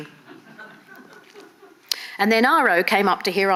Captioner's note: audience laughing